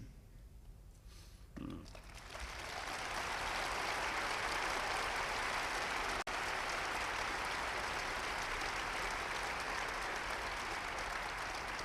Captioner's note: applause